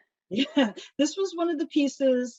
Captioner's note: laughs